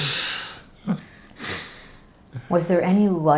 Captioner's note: laughing